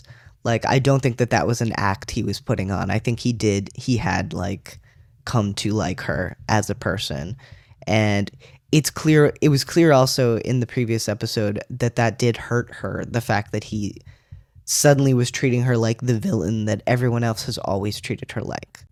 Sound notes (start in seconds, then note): none